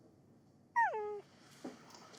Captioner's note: dog whines